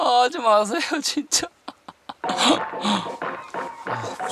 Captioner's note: begging